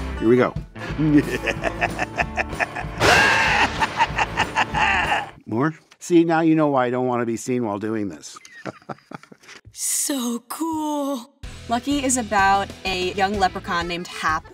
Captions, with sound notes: Here we go! [laughing maniacally] More? See, now you know why I don't wanna be seen while doing this. [laughing] So cool! Lucky is about a young leprechaun named Hap